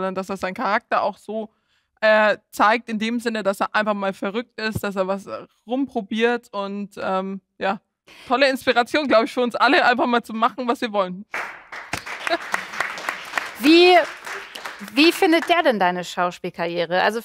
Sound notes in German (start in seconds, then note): 11.3 Applaus